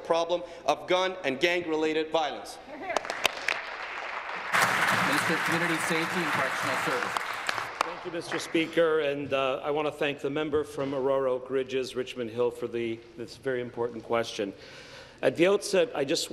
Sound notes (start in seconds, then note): 5.3 applause